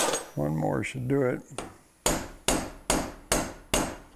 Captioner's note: metal-on-metal clanging